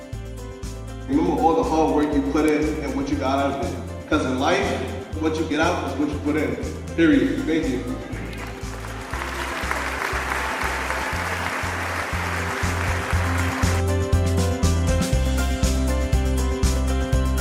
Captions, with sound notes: Remember all the hard work you put in and what you got out of it, 'cause in life, what you get out is what you put in period, thank you. (crowd applauding) (uplifting music)